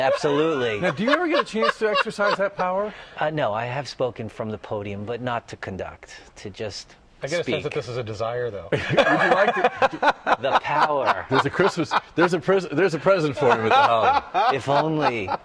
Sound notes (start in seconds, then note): 8.7 laughter